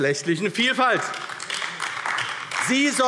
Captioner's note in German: Beifall AfD - Zurufe DIE LINKE